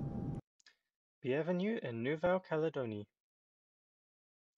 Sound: speaking in french

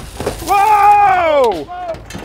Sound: glass smashes

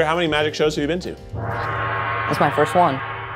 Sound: gong rings

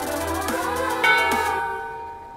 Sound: temple bell rings

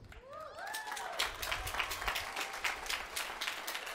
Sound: applause

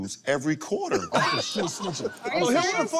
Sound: laughter

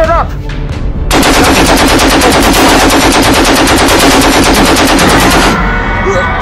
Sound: machine guns blazing

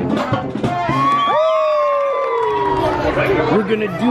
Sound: kids applaud

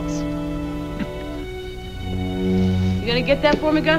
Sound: chuckles

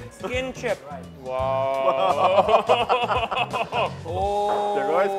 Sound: laughing

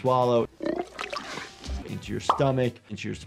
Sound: character's stomach rumbles

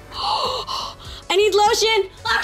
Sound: gasping

